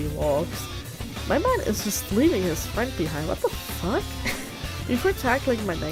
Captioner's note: laughs